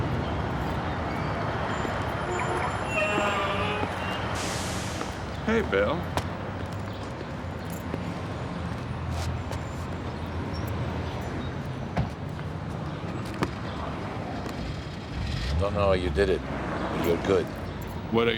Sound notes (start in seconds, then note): 3.2 horns honking